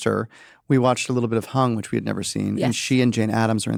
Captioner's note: none